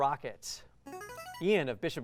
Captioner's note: buzzer